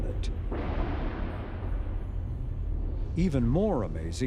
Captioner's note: thunder rolling and lightening crashing